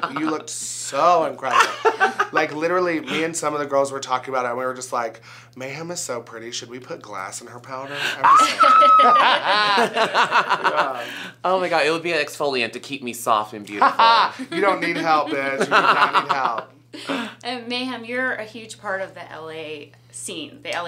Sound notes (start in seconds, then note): 8.2 all laugh; 8.2 Mayem screams